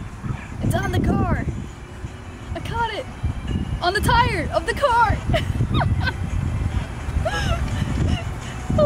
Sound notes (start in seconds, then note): 7.2 laughs